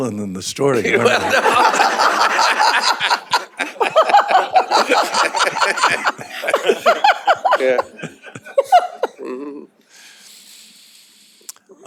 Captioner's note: laughter